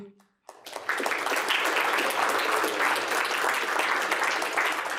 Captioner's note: applause